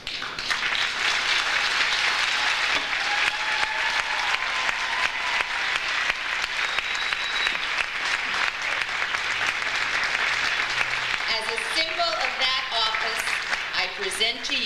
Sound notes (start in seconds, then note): 0.3 audience applauds; 3.4 audience cheers